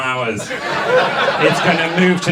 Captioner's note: audience laughs